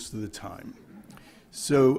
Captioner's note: laughter